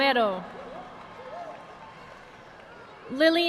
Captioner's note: audience applauding